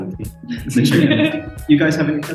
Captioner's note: chuckles and giggles